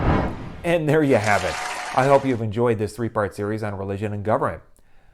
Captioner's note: applause